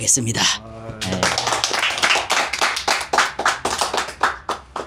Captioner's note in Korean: 박수